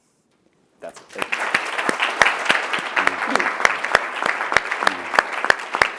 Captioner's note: applause